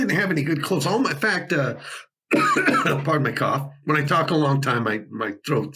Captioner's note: coughing